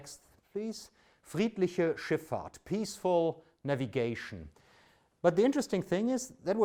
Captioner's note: speaks German